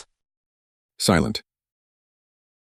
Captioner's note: silent